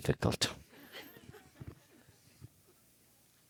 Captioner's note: the audience laughs